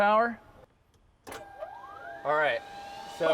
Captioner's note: machines whirring